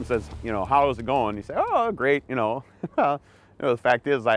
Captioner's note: laughs